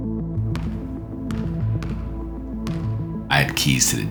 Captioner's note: ball thunking